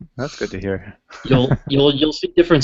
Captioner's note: laughs